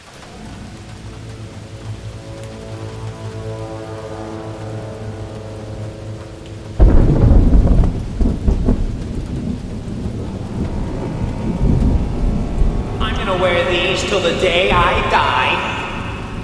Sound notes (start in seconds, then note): 0.1 dark music; 6.8 thunder rumbling